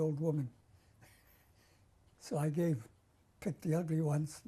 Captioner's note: laughs